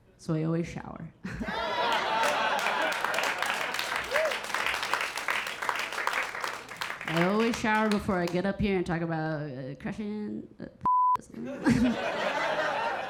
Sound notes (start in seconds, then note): 1.3 audience laughing; 1.4 Keira chuckling; 1.5 audience applauding and cheering; 10.4 beep sounding; 11.4 Keira chuckling; 11.4 audience laughing